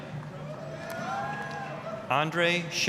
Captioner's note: applause, cheering